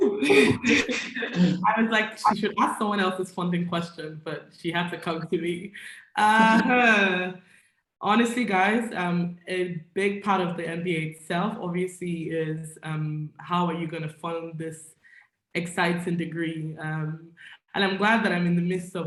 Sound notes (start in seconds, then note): 0.0 laughs; 6.3 guffaws